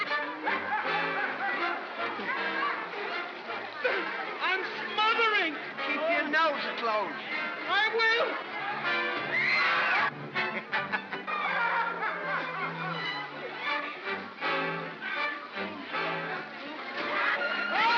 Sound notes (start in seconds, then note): 0.0 laughs; 0.2 ominous whimsical music; 9.0 water splashes; 9.1 women scream; 10.5 Barnaby laughs; 11.3 commotion & laughter; 13.5 ominous whimsical music; 17.1 women scream; 17.7 water splashes